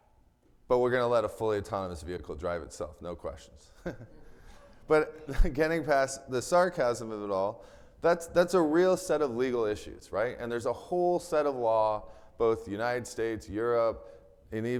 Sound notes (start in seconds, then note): 3.7 chuckles